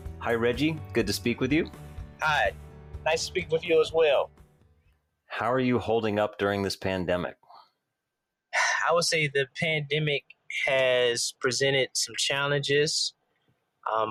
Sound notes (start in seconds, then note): 8.6 sighs